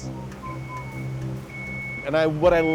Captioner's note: street noise